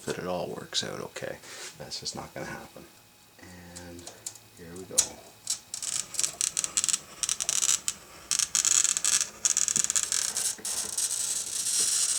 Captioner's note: glass cutting